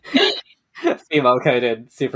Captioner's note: laughing